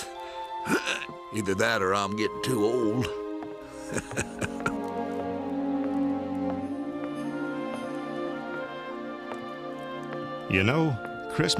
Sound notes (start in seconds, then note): 3.8 chuckling